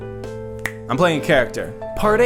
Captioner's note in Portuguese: estala